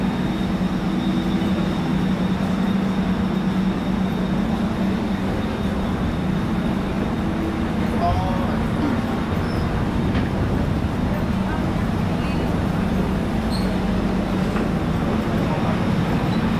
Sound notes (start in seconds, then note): 0.9 station ambience; 3.6 ventilation sound from the train